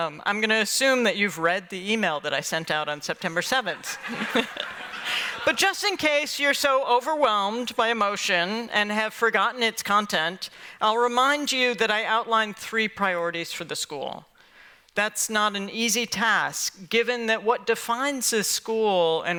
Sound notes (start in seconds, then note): 3.7 laughter